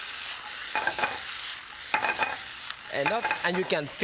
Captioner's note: broccoli sizzling; pan clattering